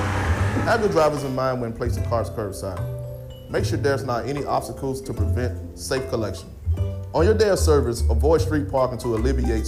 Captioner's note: horn honking